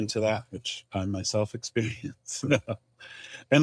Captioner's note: chuckles